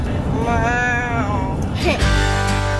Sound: giggles; gentle music

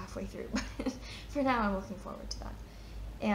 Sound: chuckles

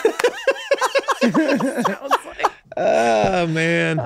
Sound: all laughing

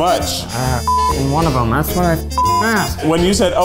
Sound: beep

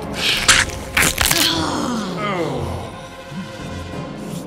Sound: flesh ripping

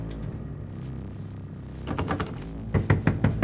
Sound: door handle rattling

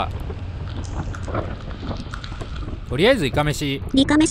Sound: rain and the sound of a motorcycle

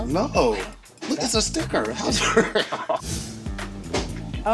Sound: laughs

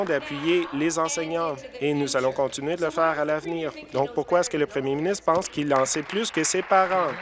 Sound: applause

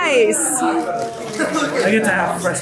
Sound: family chatters excitedly

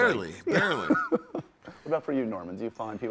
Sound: laughs

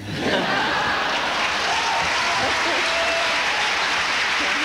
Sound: applause and laughter

